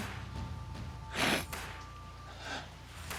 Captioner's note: sobbing